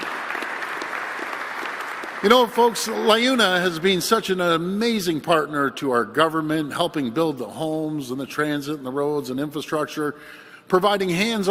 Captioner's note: applause